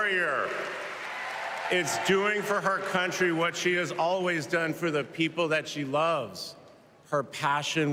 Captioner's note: cheers and applause